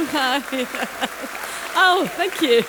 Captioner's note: applause